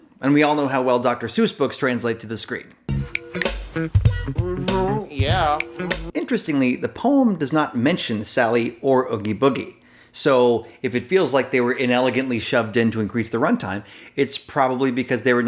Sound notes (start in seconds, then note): 2.9 upbeat funk music; 3.1 snapping